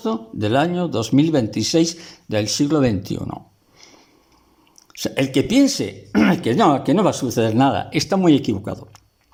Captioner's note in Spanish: carraspeo